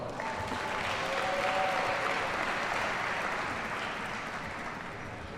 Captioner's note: audience cheers and applauds